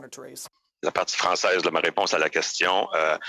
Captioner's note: speaking French